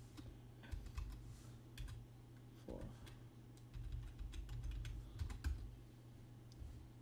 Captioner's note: typing